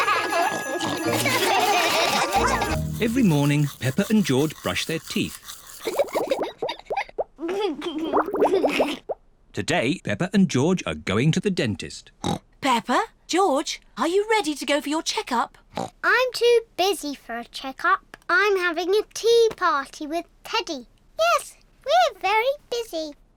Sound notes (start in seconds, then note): 0.0 all laugh; 5.8 giggles; 12.2 oinks; 15.7 oinks